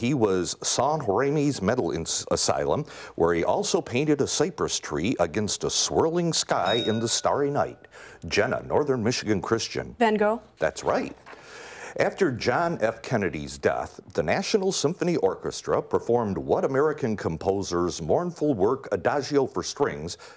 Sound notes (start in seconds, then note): 6.6 bell rings